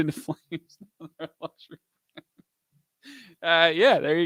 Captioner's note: laughs